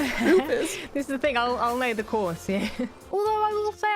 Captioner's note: laughs